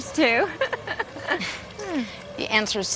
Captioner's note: Joanna chuckling